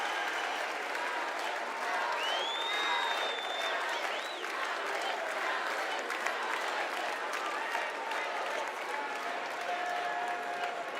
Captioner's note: cheers and applause